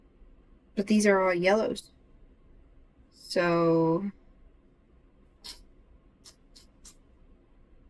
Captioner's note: sucks teeth